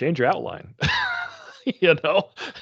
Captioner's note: chuckling